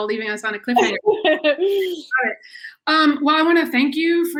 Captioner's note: chuckles